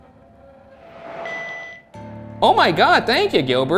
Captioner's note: Flux 2 beeps